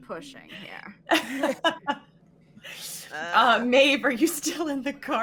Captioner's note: laughs